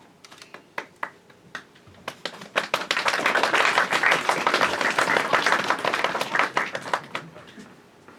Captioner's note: applause